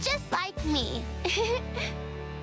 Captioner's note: giggles